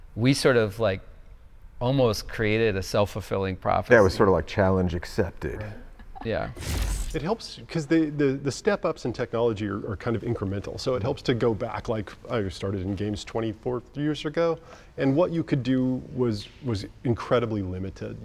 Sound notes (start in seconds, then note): 6.6 static crackling